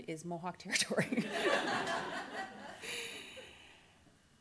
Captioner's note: laughter